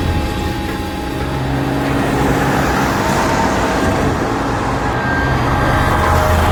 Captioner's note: ominous music; engine revving